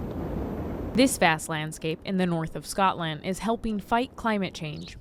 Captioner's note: voice-over